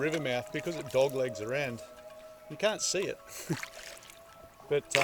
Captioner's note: chuckles